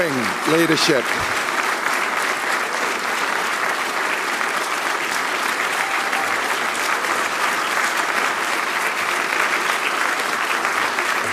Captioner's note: applause